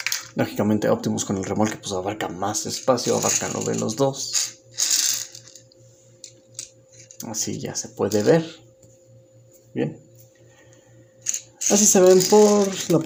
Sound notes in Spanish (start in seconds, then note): 5.5 Silencio; 8.7 Silencio